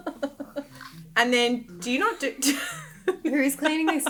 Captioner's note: laughing; laughing